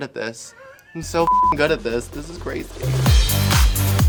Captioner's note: beep; upbeat music